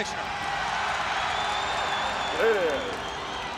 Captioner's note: audience cheering